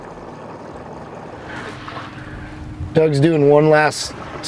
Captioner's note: motor rumbling